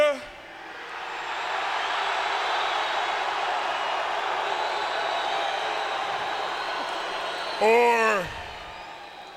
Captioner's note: applause